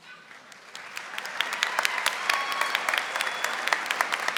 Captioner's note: audience applauding